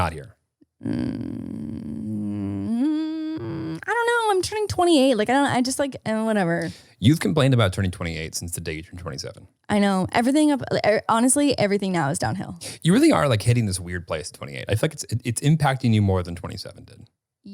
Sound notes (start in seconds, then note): 0.8 groaning